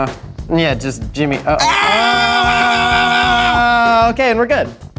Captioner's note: screams